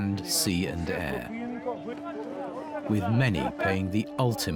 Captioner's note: people chatter